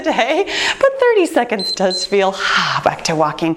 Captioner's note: timer beeps